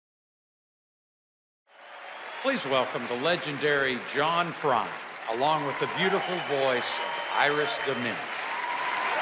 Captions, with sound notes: (applause and cheering) Please welcome the legendary, John Prine along with the beautiful voice of Iris Dement.